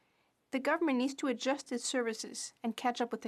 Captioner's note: speaking French